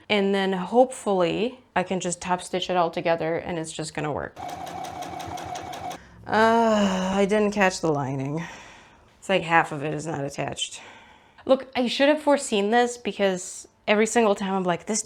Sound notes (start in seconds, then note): 4.4 sewing machine noises; 5.9 exasperation noises